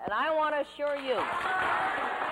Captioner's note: applause